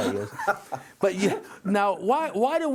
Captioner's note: laughter